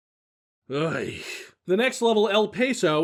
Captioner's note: sighs